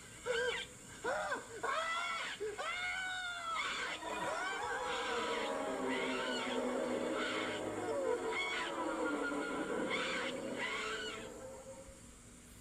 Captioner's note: screaming